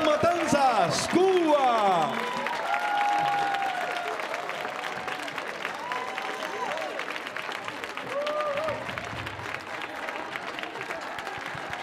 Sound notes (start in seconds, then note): 2.7 audience cheering; 2.7 audience clapping